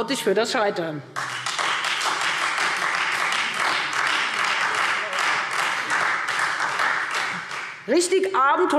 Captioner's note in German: Beifall Freie Demokraten und vereinzelt SPD